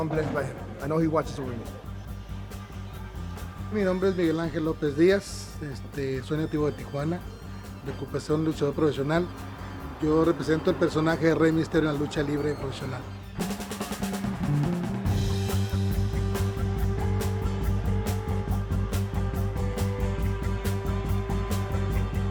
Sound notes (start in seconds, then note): 3.6 speaking Spanish